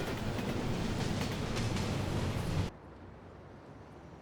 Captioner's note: train bustling